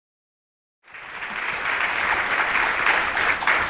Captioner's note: audience applauding